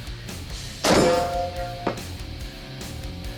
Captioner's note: metal impact